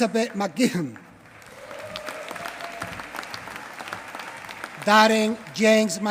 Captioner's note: applause